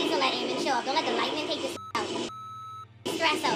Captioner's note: beep